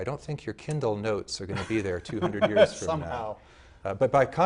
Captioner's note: laughing